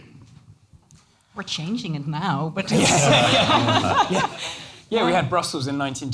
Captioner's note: laughter